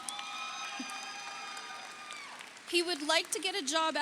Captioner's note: audience cheers; audience applauds